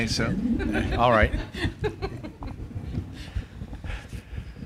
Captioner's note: laugh